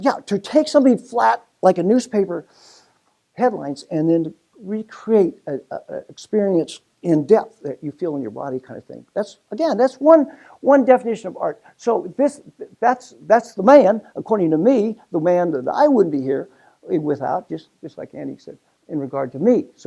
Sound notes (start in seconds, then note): none